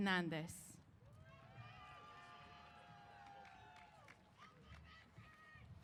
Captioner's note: applause & Cheers